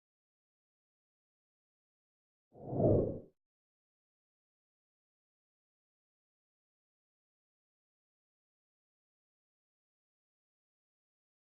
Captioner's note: noise and Silence